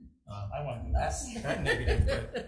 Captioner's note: laugh